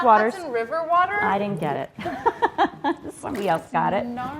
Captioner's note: laughs